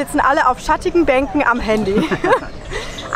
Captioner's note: laughter